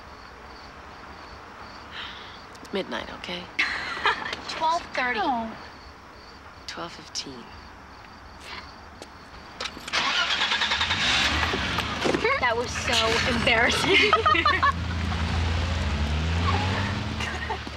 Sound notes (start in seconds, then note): 1.9 sighing; 3.6 Donna chuckling; 9.9 engine revving; 13.5 giggling; 16.4 girls giggling; 16.6 laughing